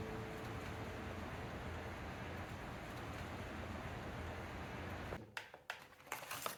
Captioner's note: rain noise